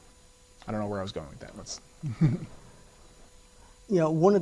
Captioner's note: giggles